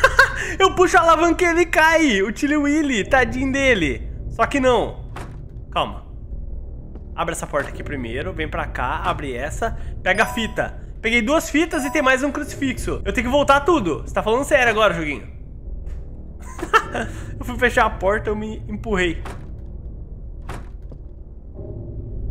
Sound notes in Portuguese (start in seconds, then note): 0.0 risos; 16.4 risos